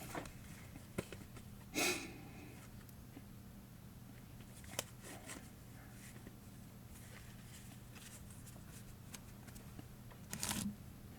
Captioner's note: shuffling cards, movement